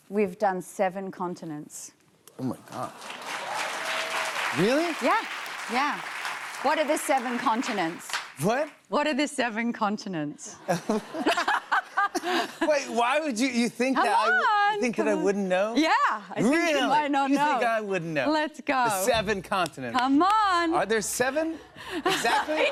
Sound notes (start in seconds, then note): 2.5 cheers and applause; 10.6 laughter